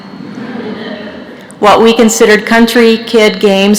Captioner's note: laughter